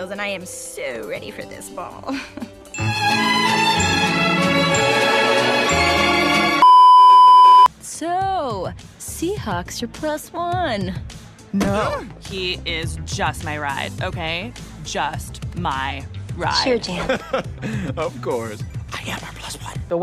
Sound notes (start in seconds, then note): 16.6 laughs